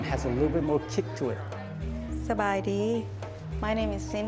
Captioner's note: speaks native language